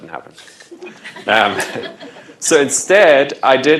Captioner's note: laughter